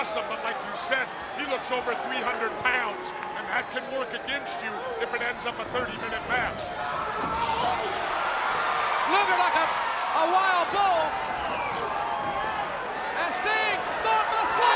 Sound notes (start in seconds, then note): 7.6 Luger yells